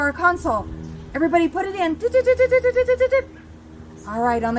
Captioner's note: beep beep doot doo beep